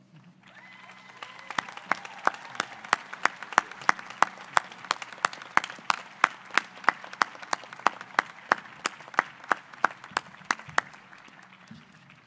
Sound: applause

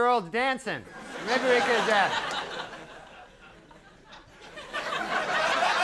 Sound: audience laughing; audience laughs

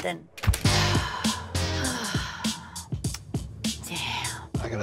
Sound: sighs frustratingly

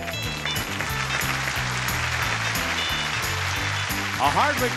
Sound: audience applauds

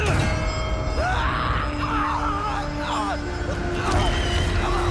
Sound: scream

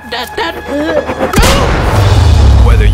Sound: gun clacks

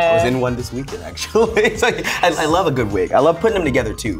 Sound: laughs

